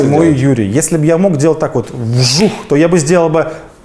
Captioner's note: whoosh!